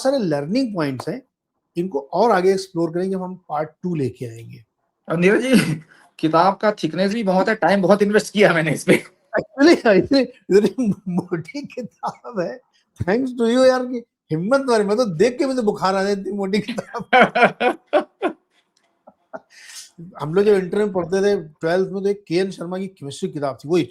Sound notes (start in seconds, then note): 6.6 sound of clearing throat; 16.6 laughter